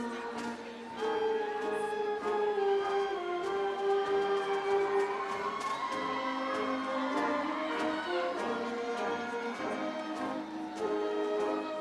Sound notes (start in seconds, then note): 2.5 upbeat ceremonial music; 2.9 audience cheering